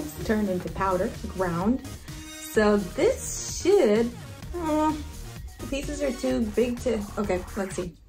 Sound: whines

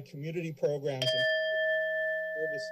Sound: bell rings

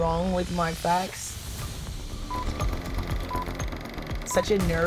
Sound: beeping

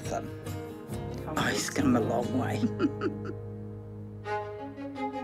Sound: giggles

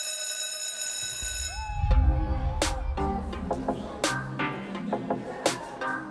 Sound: school bell rings; hip-hop music

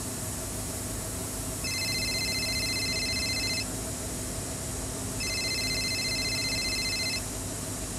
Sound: phone rings

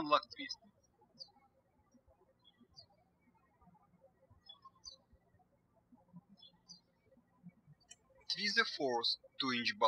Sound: birds chirping

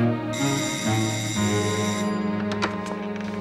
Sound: doorbell rings

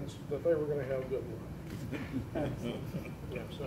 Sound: laughter

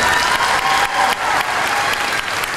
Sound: applause

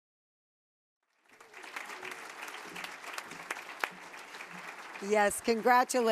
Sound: applause

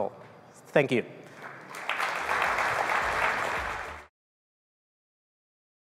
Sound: applause

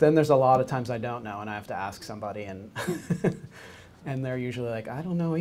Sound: laughs

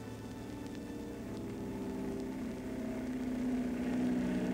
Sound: plane engine buzzing

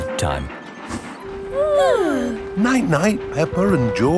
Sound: both yawning

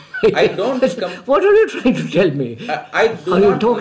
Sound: laughs

